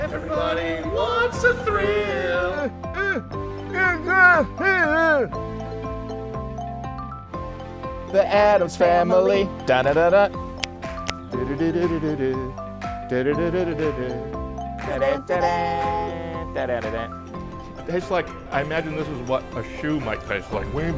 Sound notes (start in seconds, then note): 2.7 grunting; 10.0 humming